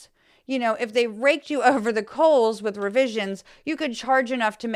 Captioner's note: laugh